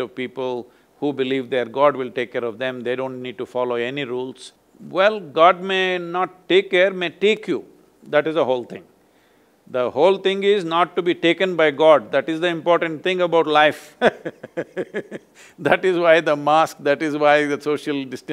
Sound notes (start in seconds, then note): 14.0 laughs